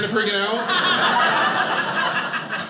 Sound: audience laughing

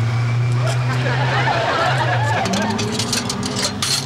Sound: laughing

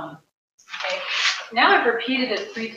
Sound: paper crumples

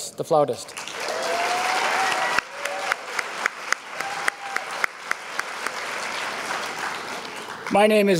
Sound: applause

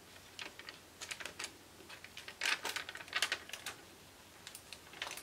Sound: paper rustling

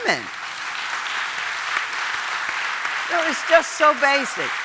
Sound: audience applauding

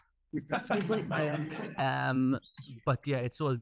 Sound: all laughing

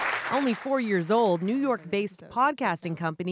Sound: applause

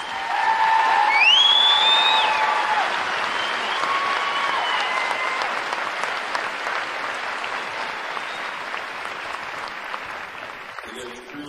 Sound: cheering and applause

